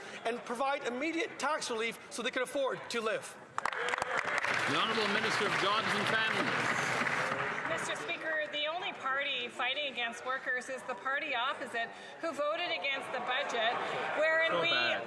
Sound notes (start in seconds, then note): 8.6 some Applause